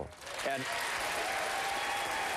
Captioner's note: applause